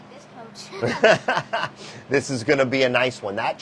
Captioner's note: laughing